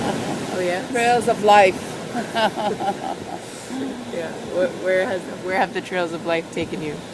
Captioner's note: laughs; laughs